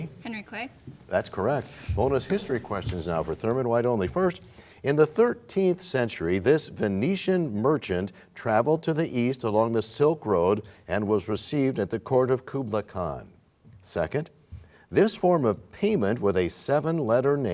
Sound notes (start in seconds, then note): none